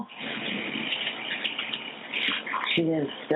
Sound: the dispatcher line becomes unmuffled

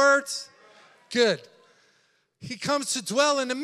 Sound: congregation yelling

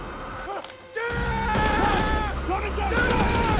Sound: guns firing; soldiers yelling

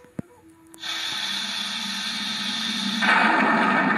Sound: sizzles

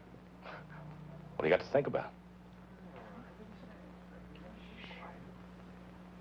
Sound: scoffs

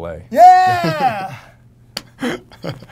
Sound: laughter

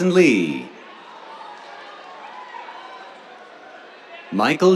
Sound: cheers

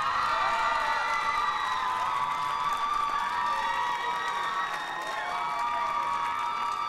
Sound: cheers and applause

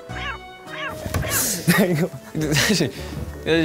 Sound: laughter malfunction

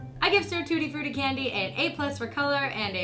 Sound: none

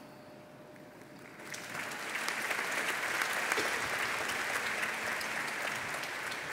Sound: applause

